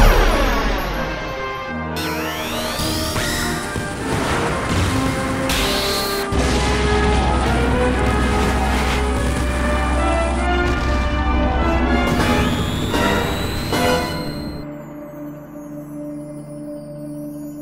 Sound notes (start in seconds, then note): 2.1 magical Transformation Noises